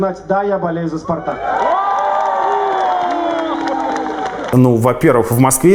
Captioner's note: cheering, applause